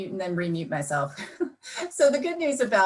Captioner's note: chuckles